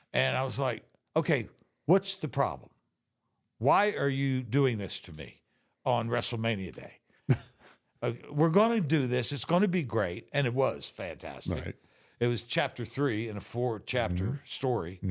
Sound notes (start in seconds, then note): 7.2 Mark giggles